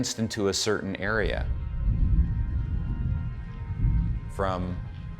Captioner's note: thunder rumbles